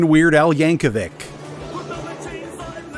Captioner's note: battle sounds